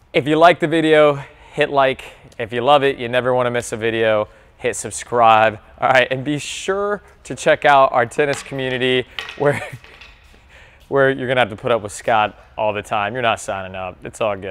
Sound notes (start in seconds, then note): 10.0 laughing